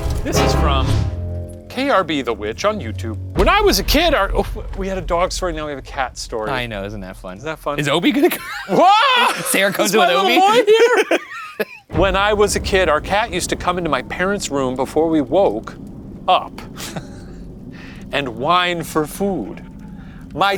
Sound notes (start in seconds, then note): 0.0 tense foreboding music; 8.1 laughs; 11.2 laughing